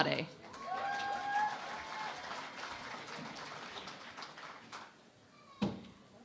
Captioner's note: cheering and Applause